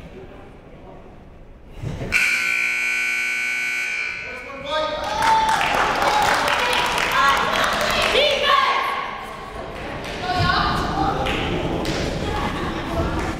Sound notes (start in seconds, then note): 2.1 timer buzzes